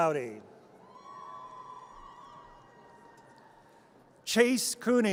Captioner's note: audience cheers